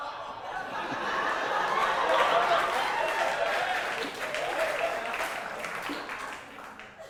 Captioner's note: audience applause